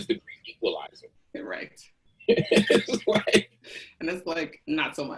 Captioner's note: laughs